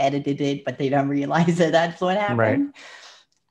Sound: laughs

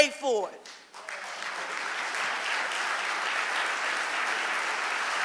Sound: audience applauding

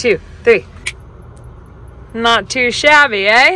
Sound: fingers snapping

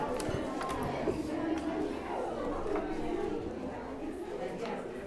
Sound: audience members talking

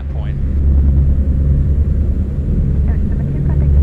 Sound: engines rumbling

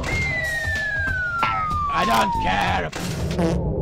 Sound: none

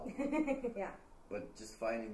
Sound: laughing

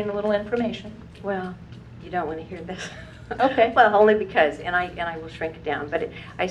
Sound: laugh

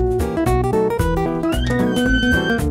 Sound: doors squeak

